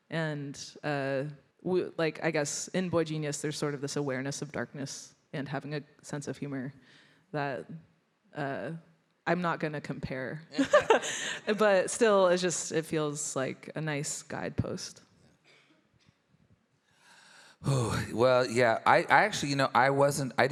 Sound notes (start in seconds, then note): 10.6 laughs